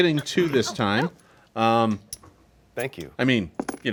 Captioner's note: coins clanking